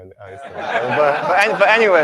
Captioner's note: laughter